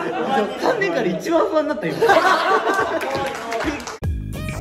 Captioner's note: laughs